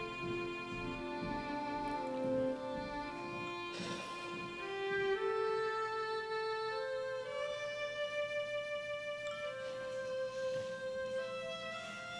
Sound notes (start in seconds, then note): 3.7 Margaret sighs